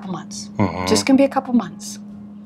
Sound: hums

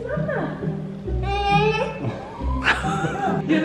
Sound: laughing; cries

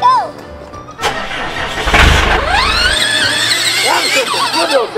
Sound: engine revs

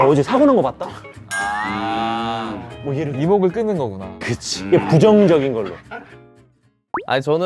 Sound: Choo growling just to get attention

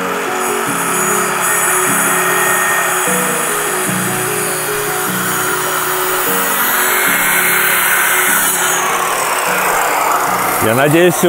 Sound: construction sounds

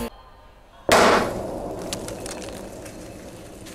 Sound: loud pop

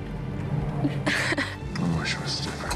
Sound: sobbing

